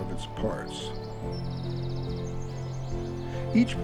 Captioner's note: birds chirp